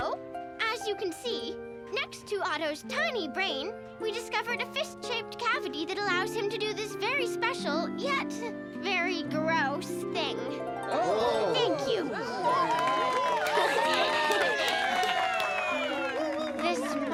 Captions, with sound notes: So, as you can see, next to Otto's tiny brain we discovered a fist shaped cavity that allows him to do this very special, yet very gross thing. (audience oohing) Thank you! (audience cheering) (Tabitha giggling)